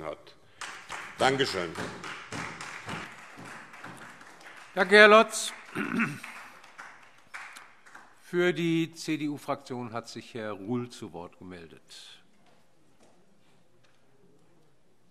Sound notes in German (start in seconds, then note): 2.4 Beifall